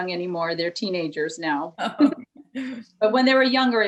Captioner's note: both chuckle